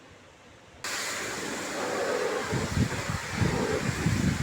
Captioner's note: pressure hose spraying